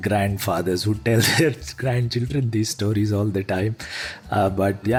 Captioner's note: laugh